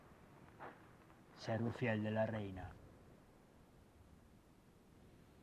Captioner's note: in Spanish